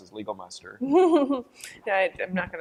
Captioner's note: laughter